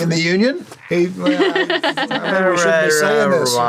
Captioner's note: chuckles